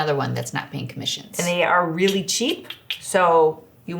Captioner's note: clicks tongue